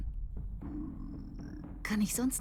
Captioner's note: stomach growling